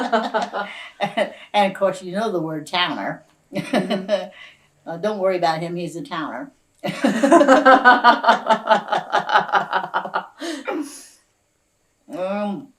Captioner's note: laughter